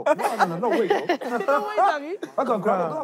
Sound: laughing

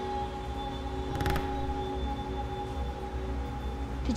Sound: ominous music; creaky footstep

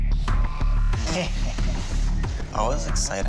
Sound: laughter

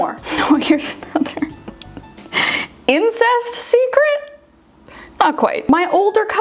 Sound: laughs

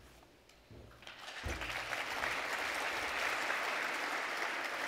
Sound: audience applauds

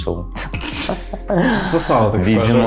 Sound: gay giggling

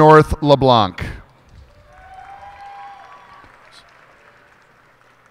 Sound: cheers and applause

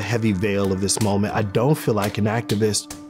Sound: slapping

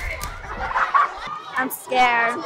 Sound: student laughing

